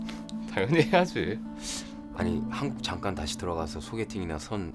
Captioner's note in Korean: 웃음